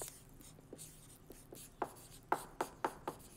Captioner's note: marker scraping